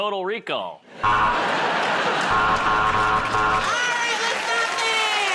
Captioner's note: buzzer